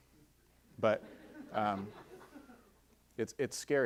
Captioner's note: audience laughing